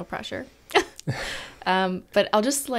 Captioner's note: laugh